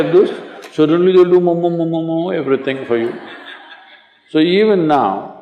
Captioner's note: laughter